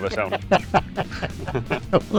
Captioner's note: both laughing; laughs